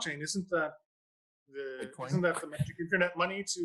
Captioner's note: laughs